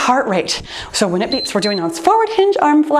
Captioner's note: timer beeps